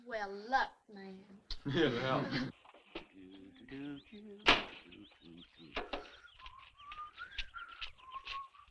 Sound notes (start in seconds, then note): 3.2 Harris humming